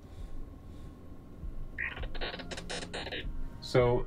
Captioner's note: digital noise